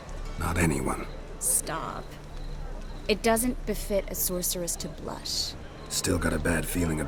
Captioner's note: playfully